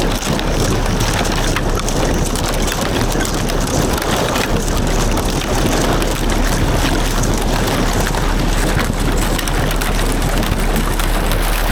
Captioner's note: water splashing